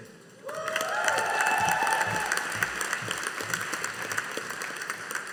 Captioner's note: audience applauding